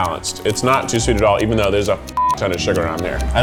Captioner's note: beeps